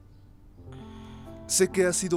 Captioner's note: Faith resopla